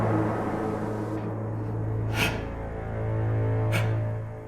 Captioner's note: Dracula gasps